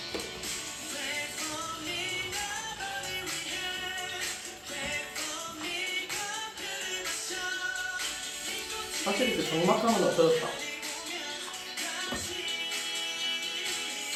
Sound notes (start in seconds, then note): none